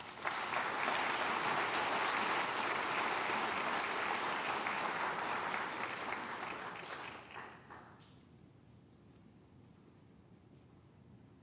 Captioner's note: applause